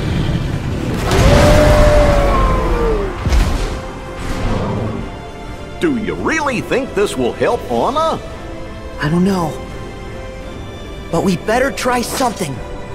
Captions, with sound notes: (wolf howls) - Do ya really think this will help Anna? - I don't know, but we'd better try something!